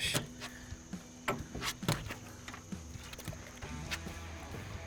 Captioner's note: boat clanging